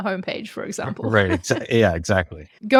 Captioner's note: laughs